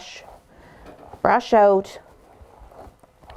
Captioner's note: soft brushing